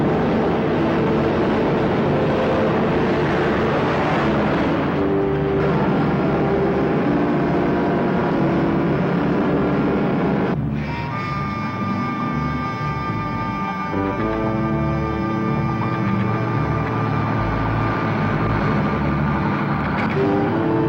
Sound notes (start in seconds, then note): 0.2 truck engine whirring; 6.1 suspenseful music; 6.1 truck engine whirring; 12.2 suspenseful music